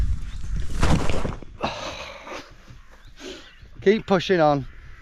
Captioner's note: huffs